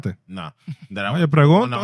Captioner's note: speaking In Foreign Language